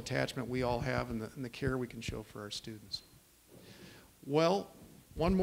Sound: none

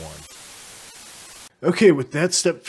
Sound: static

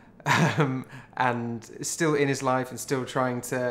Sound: chuckles

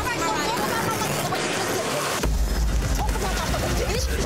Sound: yelling

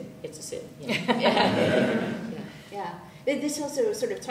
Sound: laughs

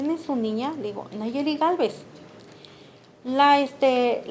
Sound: speaking Spanish

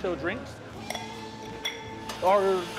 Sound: ice clinking

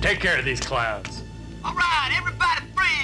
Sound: through megaphone

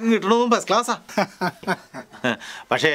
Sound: laughs

